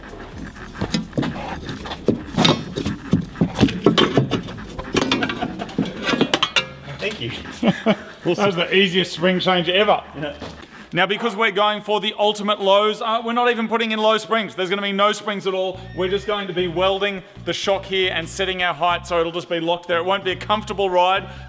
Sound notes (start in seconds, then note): 0.0 clanking noises; 5.2 laughing